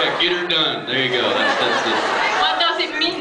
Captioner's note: laughs